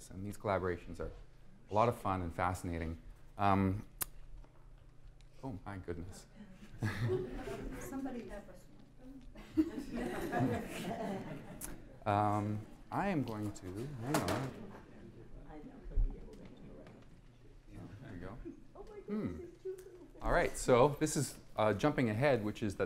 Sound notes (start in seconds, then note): 15.4 chatter